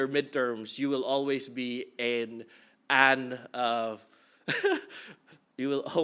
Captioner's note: chuckling